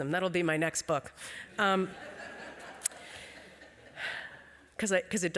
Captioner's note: laughter